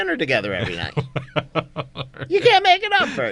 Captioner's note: laughs